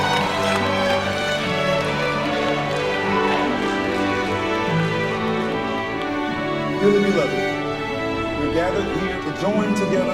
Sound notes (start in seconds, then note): 0.2 light music; 3.4 congregation applauds